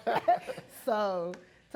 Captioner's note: laughing